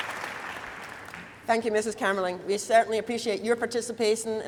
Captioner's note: applause